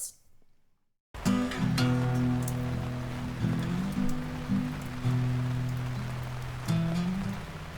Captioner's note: rain pattering; gentle acoustic music